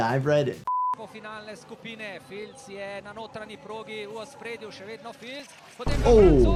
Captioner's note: commentator speaking in foreign language